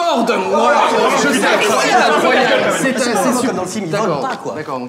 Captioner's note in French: Brouhaha